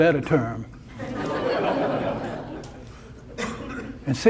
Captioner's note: audience laughter